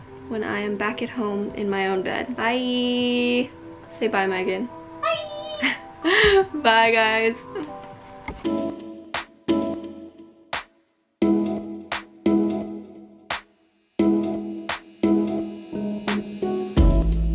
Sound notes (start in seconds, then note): 5.5 laughs; 8.6 calm music